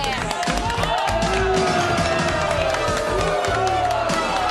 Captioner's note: audience booing